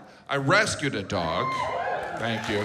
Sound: audience cheers; audience applauds

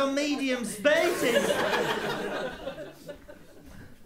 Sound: laughter

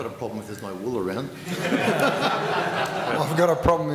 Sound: laughter

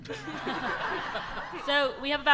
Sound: audience laughter

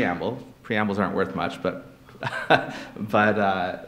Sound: laughs

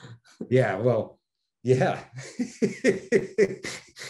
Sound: Denis laughing

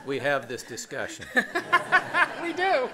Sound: laughter

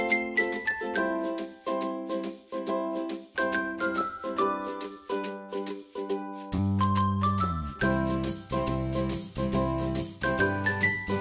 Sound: brand chimes

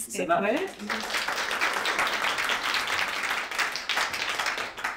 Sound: applause

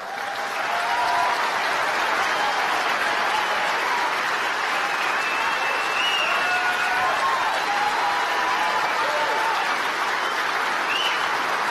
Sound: applause

